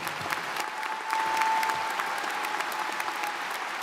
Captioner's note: crowd applauding